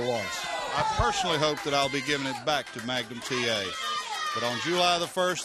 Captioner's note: crowd chatter